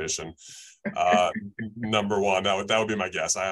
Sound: chuckles

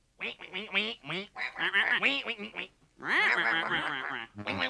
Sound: penguins exclaiming

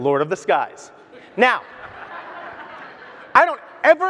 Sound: audience laughs

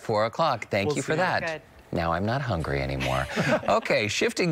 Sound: laughter

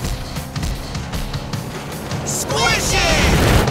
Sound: none

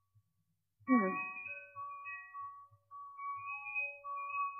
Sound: none

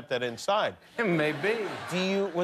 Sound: laughter

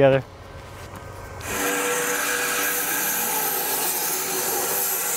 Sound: saw blade humming

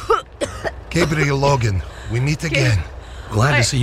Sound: coughs

